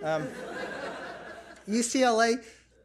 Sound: audience laughs

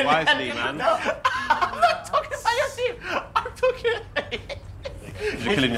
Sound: laughing

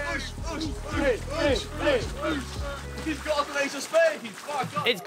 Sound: men chanting

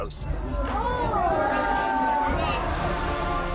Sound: crowd gasps

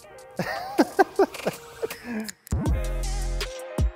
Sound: laughing; mellow music

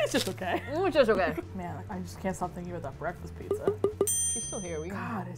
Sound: ding

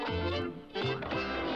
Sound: wood creaks

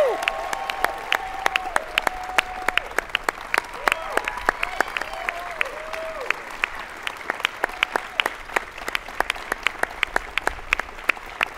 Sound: applause

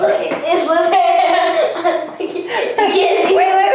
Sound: laughter

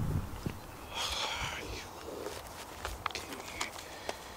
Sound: quietly

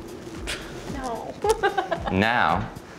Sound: laughs

